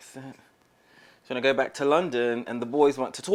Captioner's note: using British accent